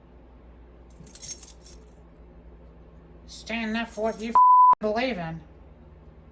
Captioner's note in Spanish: pitido